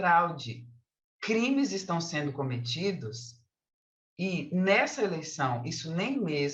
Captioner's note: continues speaking in Portuguese